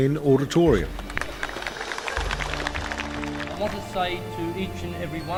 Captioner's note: audience clapping